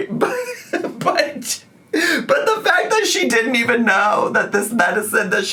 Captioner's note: laughing